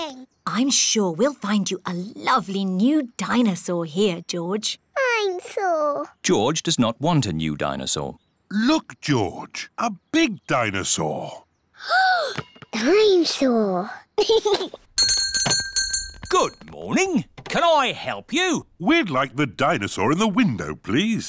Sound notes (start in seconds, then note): 11.5 gasps; 14.2 giggles; 15.0 bell rings